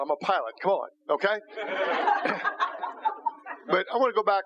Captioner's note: laughter